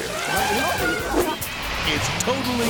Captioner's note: elephant trumpets; laughs